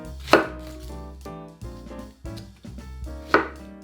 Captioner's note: knife cutting